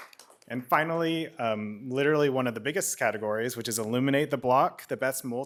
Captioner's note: applause